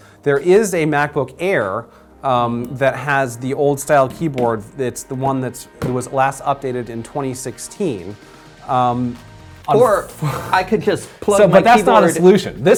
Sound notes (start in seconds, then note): 9.2 laughs